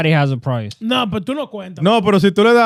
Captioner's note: speaking In Foreign Language